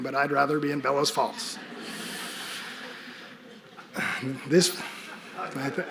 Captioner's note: audience laughing